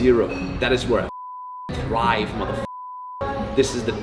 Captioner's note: beep